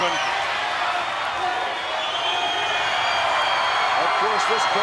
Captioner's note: crowd cheering